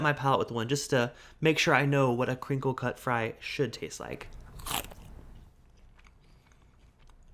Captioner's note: Crunch